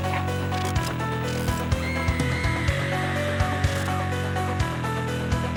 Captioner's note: growling; laugh; scream